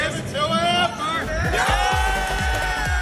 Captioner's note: cheering